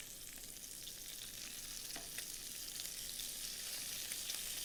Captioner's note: bacon sizzling